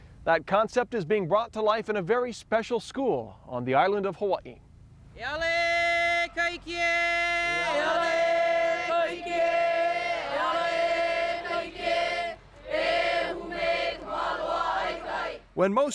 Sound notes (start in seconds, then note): 5.1 chanting